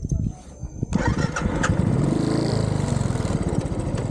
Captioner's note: bike engine starting